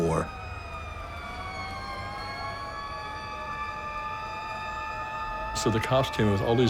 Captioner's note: sirens wailing